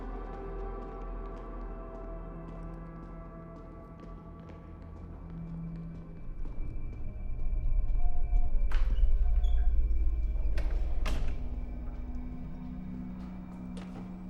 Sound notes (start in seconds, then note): 10.4 door closes